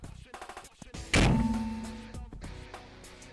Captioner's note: upbeat rock music starts; bow launches; upbeat rock music starts